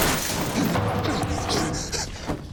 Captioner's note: panting